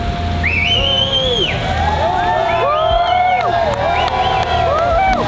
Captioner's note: crowd cheering and clapping